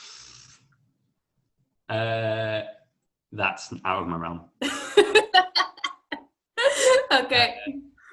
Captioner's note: laughter